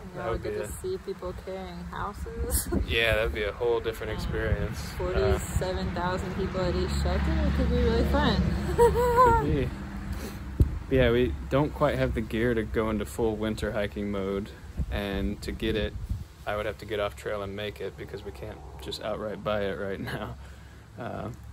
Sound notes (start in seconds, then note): 8.6 crazy laugh